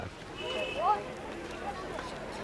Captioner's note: car horn honking